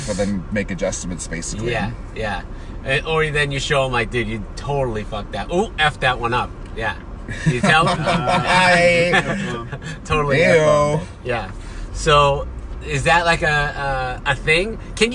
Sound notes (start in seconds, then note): 7.3 laughing